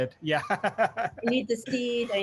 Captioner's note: chuckles